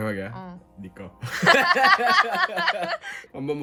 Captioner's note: laughter